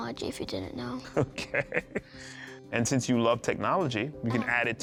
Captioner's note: laughs